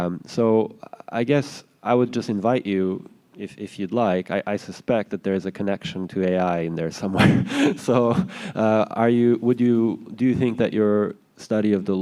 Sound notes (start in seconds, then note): 7.2 chuckles